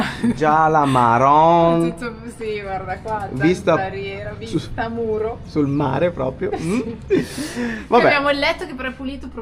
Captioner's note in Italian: risate